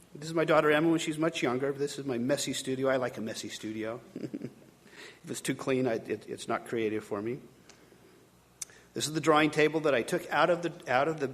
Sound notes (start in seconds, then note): 4.0 chuckling